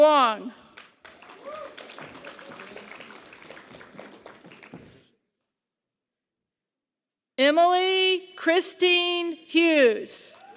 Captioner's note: applause; applause